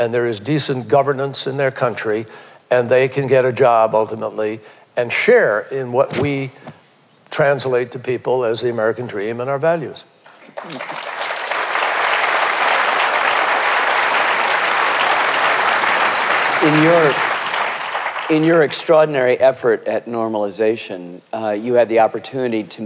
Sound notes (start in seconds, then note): 12.9 applause